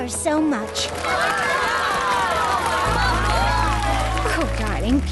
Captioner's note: audience clapping and cheering